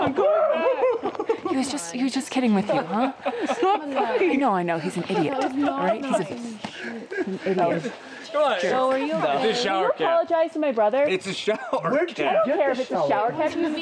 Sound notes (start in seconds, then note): 7.9 chattering; 11.5 laughs